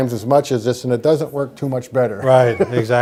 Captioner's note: laughs